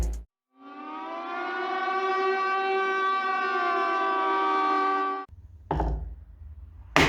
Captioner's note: siren